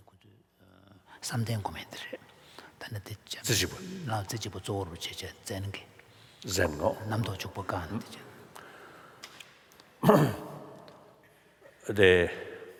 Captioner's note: foreign Language